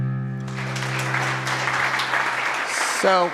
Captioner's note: audience claps